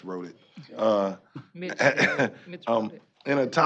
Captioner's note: chuckling